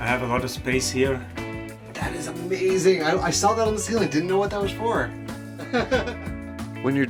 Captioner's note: laugh